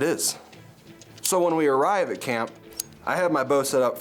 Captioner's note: bow clicking; energetic music